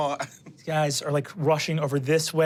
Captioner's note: chuckles